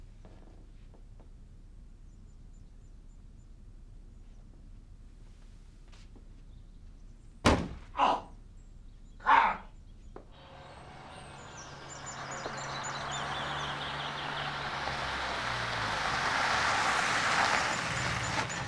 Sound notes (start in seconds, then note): 7.4 door bangs